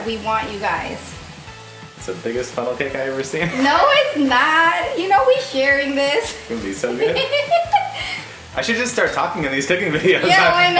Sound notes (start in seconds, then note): 3.6 laughing; 6.9 laughing